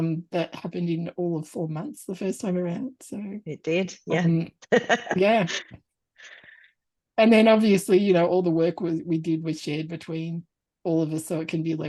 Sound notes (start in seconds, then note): 4.7 laughs